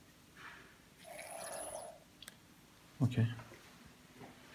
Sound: Şırınga sesi

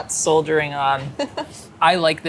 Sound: laughs

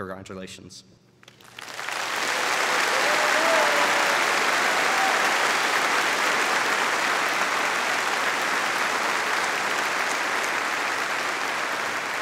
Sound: applauding

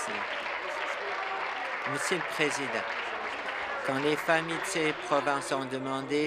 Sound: applause

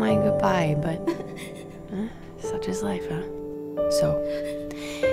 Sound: sobbing

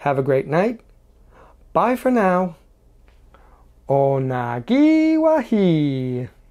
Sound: speaking Mohawk

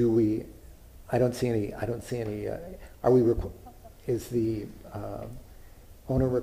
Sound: laughter

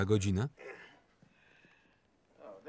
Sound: groaning

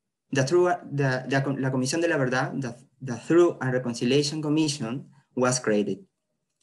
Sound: spanish

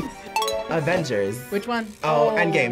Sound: bell dings

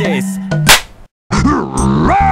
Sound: smack

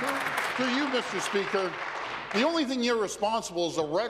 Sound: applause

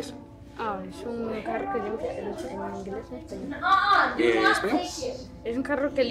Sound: teacher and student speaking in Spanish

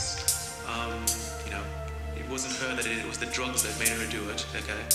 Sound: voiceover

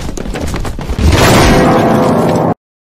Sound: crash

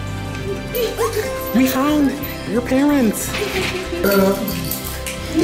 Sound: laughter

